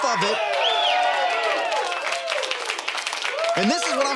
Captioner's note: audience cheering